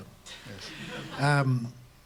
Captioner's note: laughter